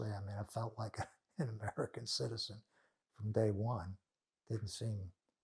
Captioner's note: laughing